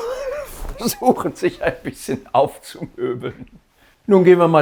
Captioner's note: laughter